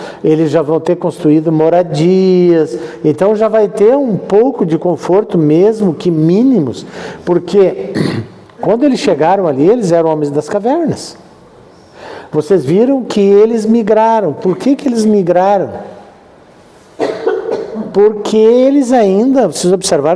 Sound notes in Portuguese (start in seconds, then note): 7.8 limpando a garganta; 16.9 tosse